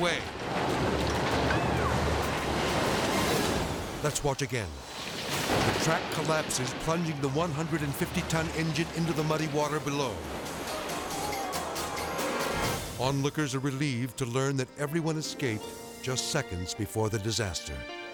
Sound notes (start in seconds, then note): 0.0 soil crashing; 1.4 people clamoring; 4.9 soil crashing